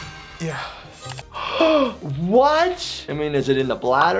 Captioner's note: gasps